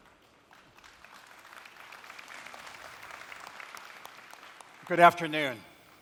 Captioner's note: audience applause